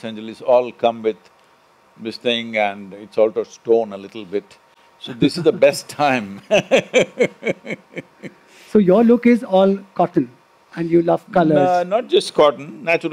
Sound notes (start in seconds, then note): 6.4 laughs